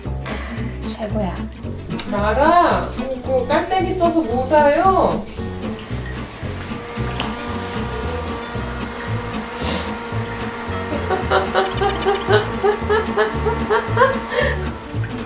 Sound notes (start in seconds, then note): 6.6 SFX: Electric fan; 9.6 sniffle; 10.9 laugh